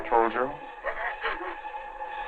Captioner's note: crying